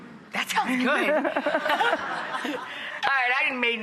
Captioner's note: laughing